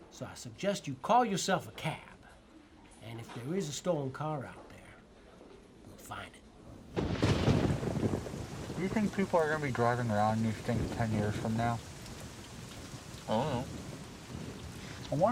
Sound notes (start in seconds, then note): 7.4 rain pattering; 7.4 thunder crashing